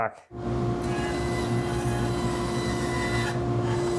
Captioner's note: machines whirring